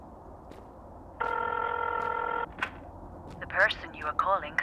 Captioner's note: phone ringing